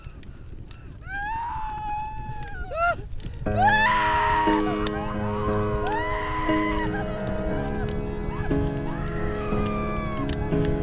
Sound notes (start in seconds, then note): 3.5 women screaming; 3.5 solemn music